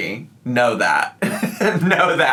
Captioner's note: laughs